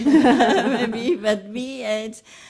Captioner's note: laughs